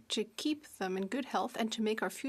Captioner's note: speaking French